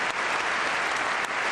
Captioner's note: applause